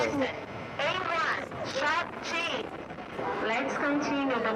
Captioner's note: woman on loudspeakers